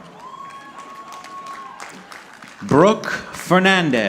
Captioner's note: audience clapping